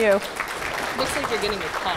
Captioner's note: audience clapping